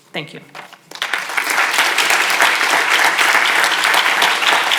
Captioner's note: audience applauds